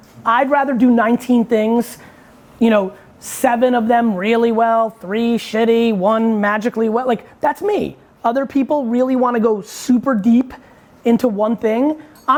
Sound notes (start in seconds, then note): none